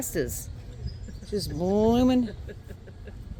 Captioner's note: laughing